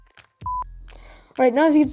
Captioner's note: beep